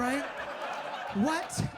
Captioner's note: audience laughs